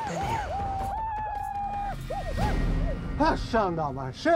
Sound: whooping sounds outside; speaking shoshone

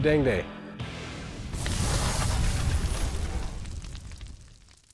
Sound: fire crackling

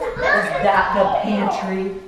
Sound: children exclaim

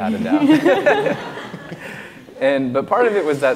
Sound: laughs

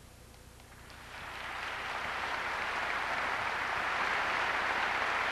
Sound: audience applauds

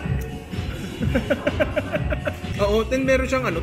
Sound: laughs

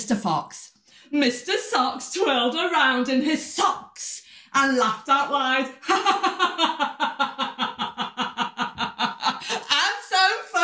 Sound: laughter

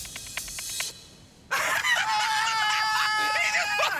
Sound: laughter

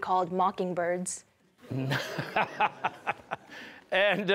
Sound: laughing

